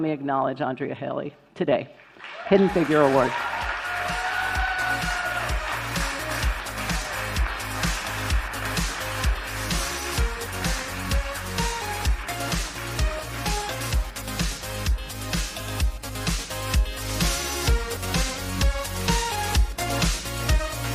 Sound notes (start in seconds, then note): 7.3 applause